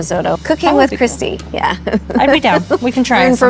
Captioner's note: laughing